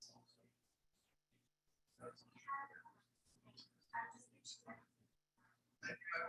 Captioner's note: people chattering indistinctly continues